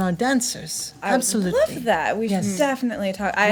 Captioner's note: none